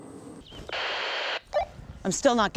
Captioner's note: radio static